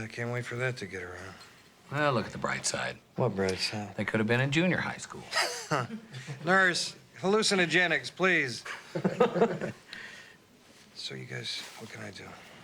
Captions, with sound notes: I can't wait forthat to get around. Well, look at the bright side. What bright side? They could've been in junior high school. (chuckling) Nurse, hallucinogenics, please. (laughing) So, you guys, what can I do?